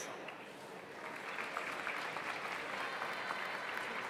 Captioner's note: audience applauds